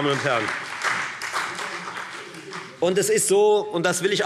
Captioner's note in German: Beifall Freie Demokraten und BÜNDNIS 90/DIE GRÜNEN